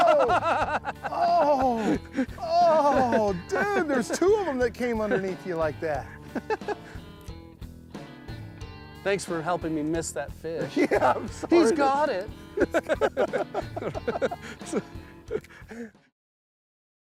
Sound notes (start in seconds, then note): 6.0 laughs; 12.5 laughter